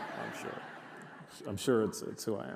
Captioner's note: audience laughs